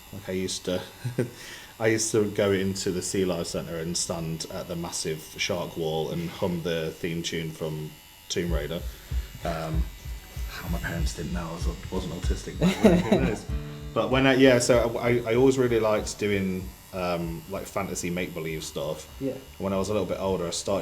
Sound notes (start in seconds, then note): 11.6 guitar strum; 12.5 laughing